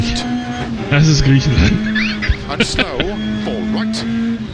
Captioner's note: laughs